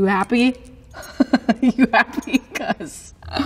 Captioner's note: laughing